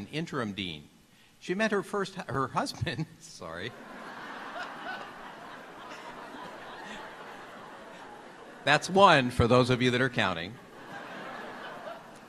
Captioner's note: laughter